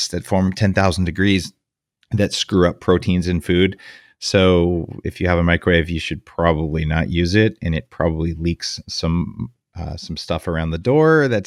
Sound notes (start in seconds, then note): none